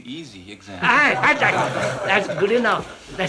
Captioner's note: laughter